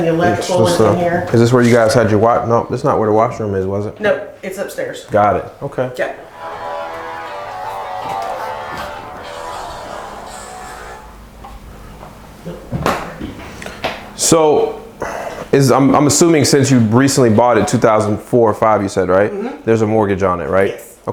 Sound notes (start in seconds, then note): 6.4 cell phone ringtone